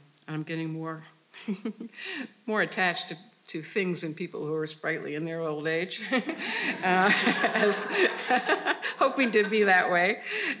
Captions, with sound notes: I'm getting more attached to things and people who are sprightly in their old age (laughing). (audience laughing) I was hoping to be that way.